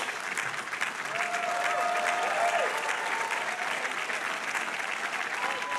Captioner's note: audience cheering